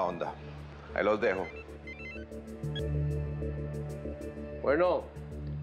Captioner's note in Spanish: El celular sigue sonando